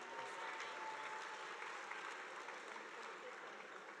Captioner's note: audience applauding